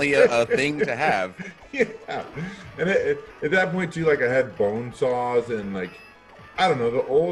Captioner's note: laugh